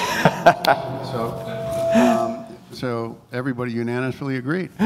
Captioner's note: laughter